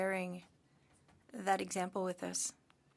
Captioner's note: speaking French